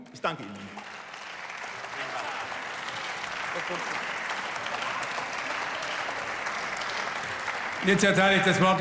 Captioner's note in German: Zwischenruf und Beifall